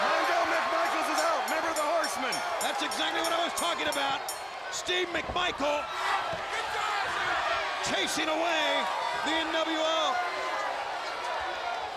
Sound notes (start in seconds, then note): 0.9 bell ringing